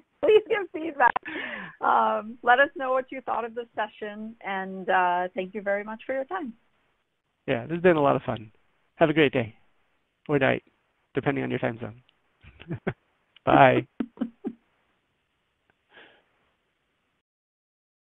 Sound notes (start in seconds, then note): 0.0 laughs; 13.4 laughs